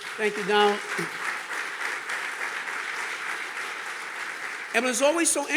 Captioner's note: audience clapping